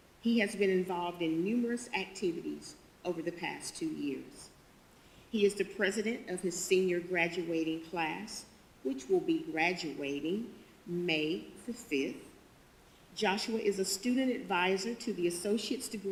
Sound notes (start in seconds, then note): none